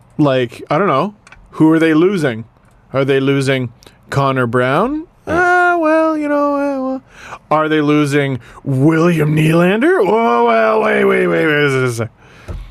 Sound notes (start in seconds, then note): 5.4 indecisive sound effect